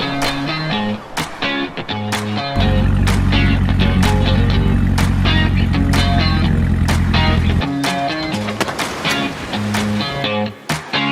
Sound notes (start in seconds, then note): 3.0 car engine hums; 7.8 guitar music plays